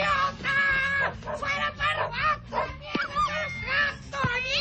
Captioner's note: dog barks